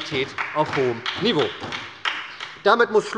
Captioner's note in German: Beifall bei der SPD